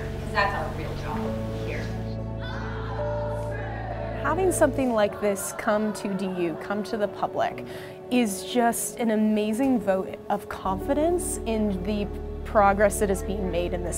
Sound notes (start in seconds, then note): 2.4 cheers